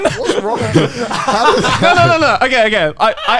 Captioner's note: men laugh